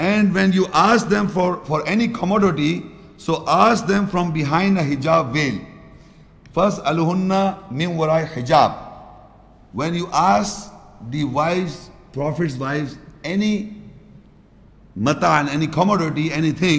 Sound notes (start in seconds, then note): 0.0 Arabic; 6.7 Arabic